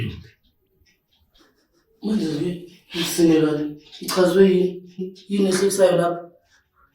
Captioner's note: NaMnisi GIGLING